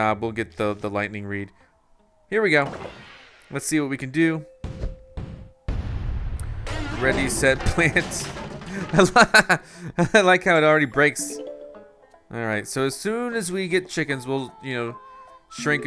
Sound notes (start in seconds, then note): 8.6 laughs